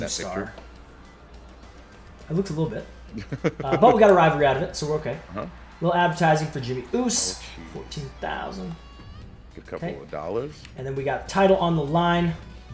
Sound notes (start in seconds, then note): 2.9 laugh